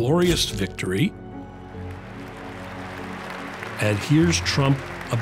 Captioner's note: audience applauds